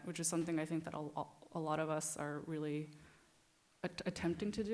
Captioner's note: none